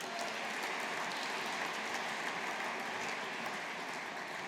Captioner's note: audience applauding